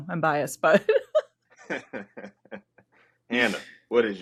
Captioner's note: laughing